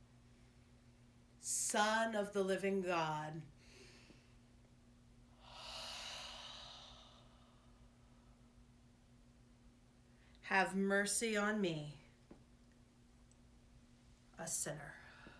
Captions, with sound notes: Son of the Living God. (exhaling) Have mercy on me. A sinner.